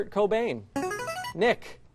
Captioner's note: buzzer